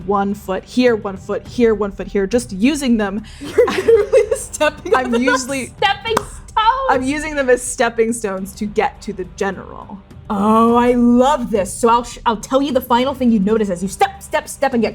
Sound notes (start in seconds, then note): 3.4 laughing